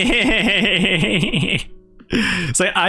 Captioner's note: laughs